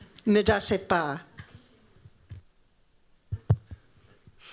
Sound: non-english

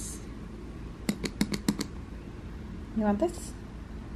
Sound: tapping

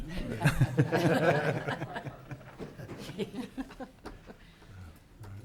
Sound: audience laughing

